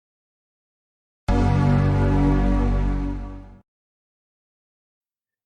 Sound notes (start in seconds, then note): 1.4 Mac start up chime